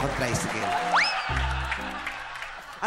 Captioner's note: crowd laughing